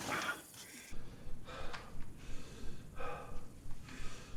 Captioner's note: breathing heavily